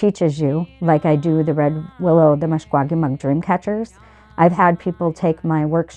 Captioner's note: speaks Ojibwe